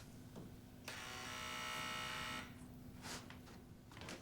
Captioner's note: door buzzes